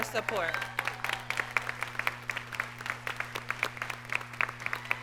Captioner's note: audience clapping